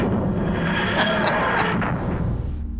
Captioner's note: laughter